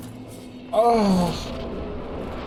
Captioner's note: moans